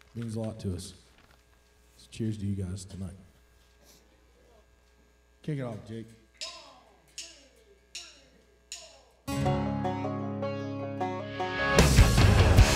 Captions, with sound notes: Means a lot to us. So cheers to you guys tonight. Kick it off, Jake. - One, two, three, four! (drumsticks clacking) (lively country music)